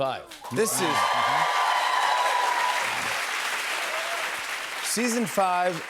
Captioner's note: cheers and applause